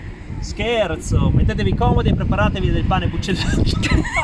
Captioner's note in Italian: sonora risata